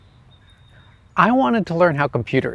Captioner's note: birds singing